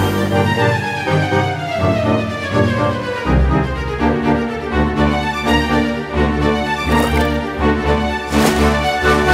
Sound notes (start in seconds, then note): 6.8 water splash sound; 6.9 bubbling sound